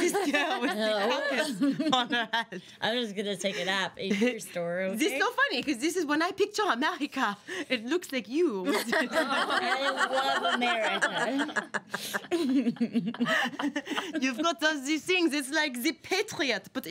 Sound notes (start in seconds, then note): 8.6 girls laughing